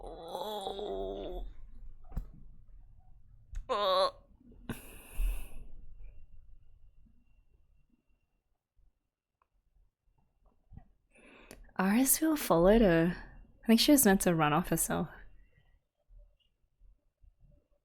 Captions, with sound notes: Ooo! [pained noise] Irisviel followed her. I think she was meant to run off herself.